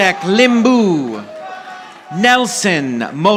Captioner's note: audience applauding